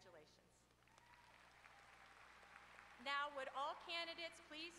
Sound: applause

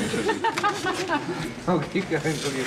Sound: woman laughs

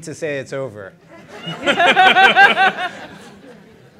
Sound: laughter

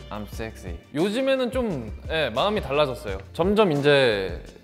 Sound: speaks Korean

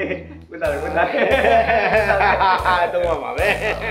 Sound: laughing in sadly

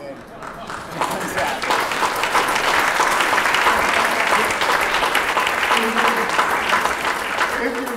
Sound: applause

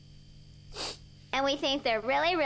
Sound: sniffling

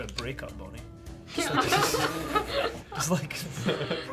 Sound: laughing

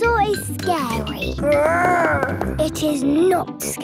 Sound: growls

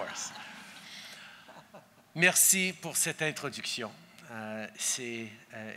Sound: laughter

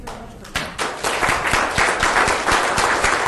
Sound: applause

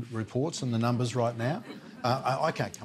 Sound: laughter

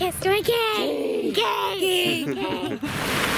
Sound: voiceover; laughing

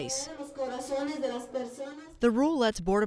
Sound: woman speaking Spanish

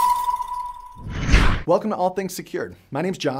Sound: air whooshing

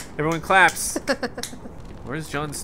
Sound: laughs

